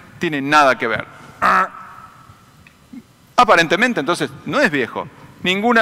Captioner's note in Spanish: sonido de negación